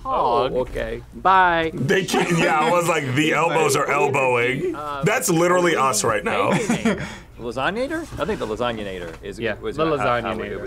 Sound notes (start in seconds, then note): 6.0 laughs